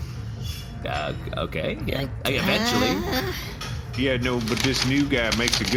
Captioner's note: unfolding paper